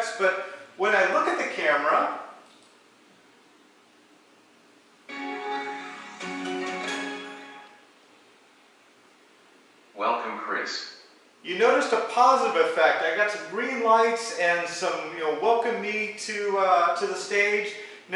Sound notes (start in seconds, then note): 5.1 Intel chime; 8.0 AI voice: welcome Chris